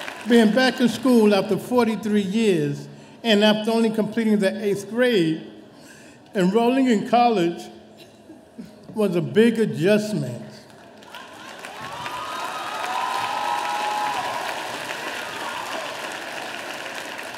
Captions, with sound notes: Being back in school after 43 years and after only completing the 8th grade, enrolling in college was a big adjustment. (audience applauding)